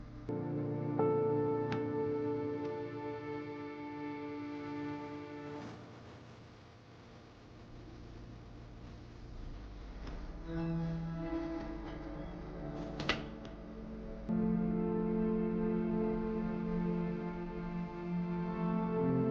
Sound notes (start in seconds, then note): 10.1 door creaks; 11.3 door rattles; 15.4 gentle music